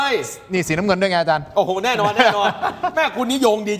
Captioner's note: laughs